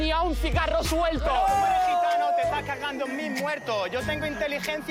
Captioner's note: shouts